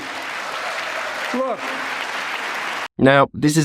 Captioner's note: audience clapping